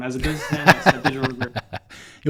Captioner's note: laughing